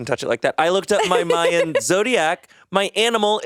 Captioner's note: laughing